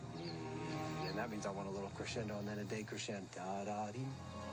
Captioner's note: coach noises